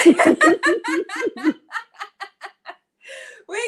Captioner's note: laughter